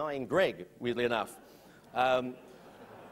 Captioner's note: laughter